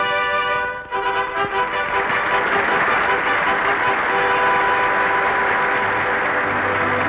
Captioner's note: regal trumpet music; audience applause; serene orchestral music